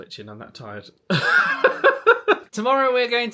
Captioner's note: laughing